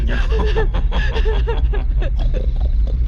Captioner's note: crying